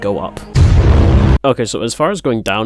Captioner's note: bwooooooooong but shorter